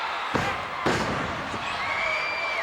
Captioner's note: Bulldog thuds; crowd cheering